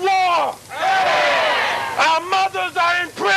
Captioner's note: crowd agreeing